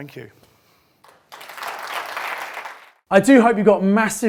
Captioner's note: applause